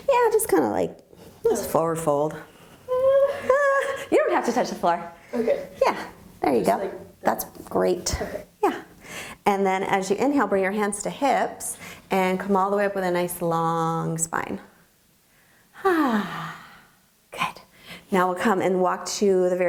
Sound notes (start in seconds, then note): 15.7 sighing